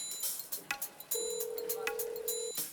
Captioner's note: line rings